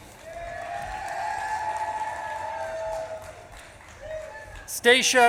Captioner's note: audience claps and cheers